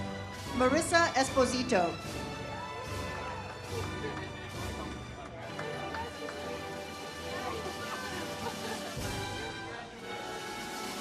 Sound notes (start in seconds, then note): 2.4 audience cheers; 7.8 ceremonial music